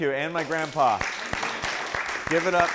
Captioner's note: applause